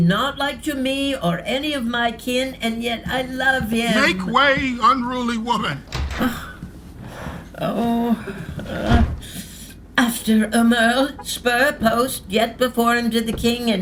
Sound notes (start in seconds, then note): 5.8 door opening; 5.8 footsteps; 8.7 door closing